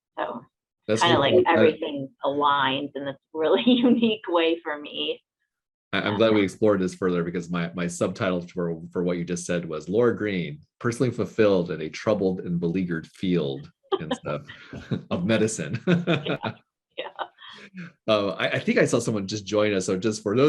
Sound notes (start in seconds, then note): 14.0 laughing